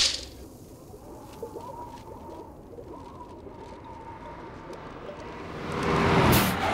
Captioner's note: snapping; wind blowing